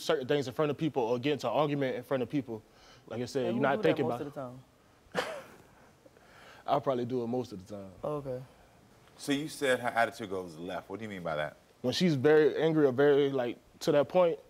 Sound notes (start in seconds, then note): 5.2 laughs